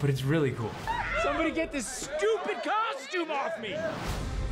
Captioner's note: whooping